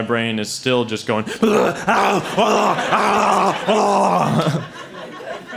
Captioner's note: brain demon noises